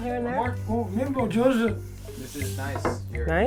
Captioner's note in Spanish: comenta en japones